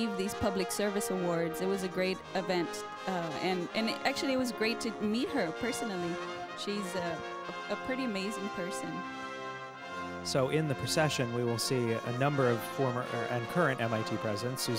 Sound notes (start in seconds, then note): none